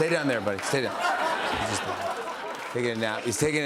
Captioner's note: laughter